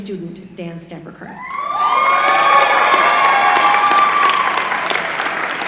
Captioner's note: applause